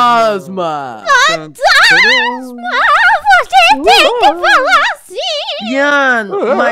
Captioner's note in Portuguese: com voz de fantasma